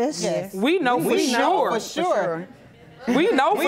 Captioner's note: audience chuckling